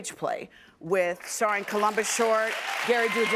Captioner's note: audience applauding